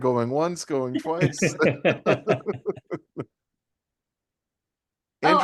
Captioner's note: group laughing